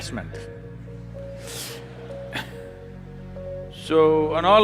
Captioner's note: few laugh